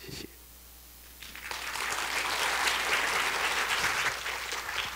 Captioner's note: applause